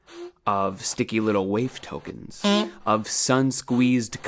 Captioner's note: beep